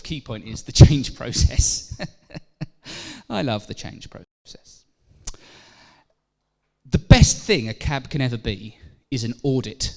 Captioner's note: laughs